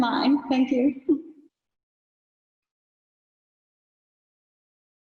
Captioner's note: giggles